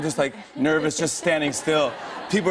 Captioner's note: laughter